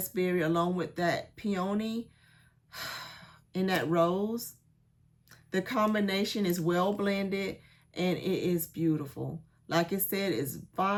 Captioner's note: sighs and gasps